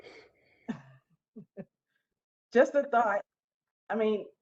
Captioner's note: laughter